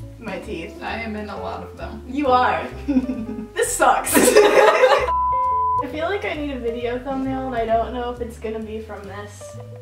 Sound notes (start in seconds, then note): 2.8 chuckling; 4.1 both laughing; 5.0 beeping